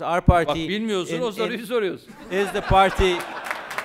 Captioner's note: non-english speech